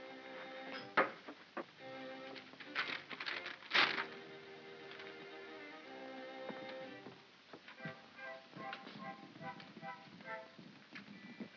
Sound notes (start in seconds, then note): 0.2 ominous music; 2.3 paper rustles; 4.7 ominous music; 7.8 soft upbeat music